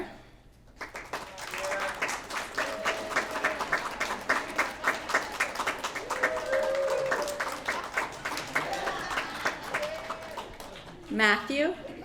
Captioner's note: applause